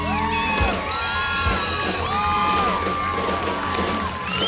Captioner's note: crowd cheers